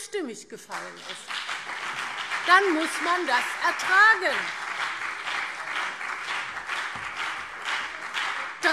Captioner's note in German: Beifall BÜNDNIS 90/DIE GRÜNEN und vereinzelt CDU